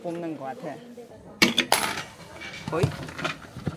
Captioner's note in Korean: 동전 넣는 소리